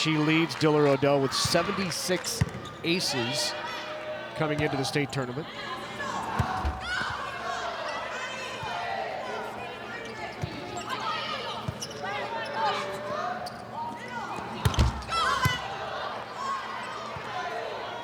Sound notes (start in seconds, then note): 5.8 players shouting indistinctly; 14.6 ball thumping